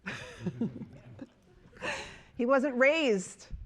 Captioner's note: chuckling